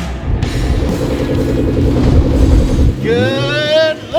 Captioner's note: engine hums; upbeat music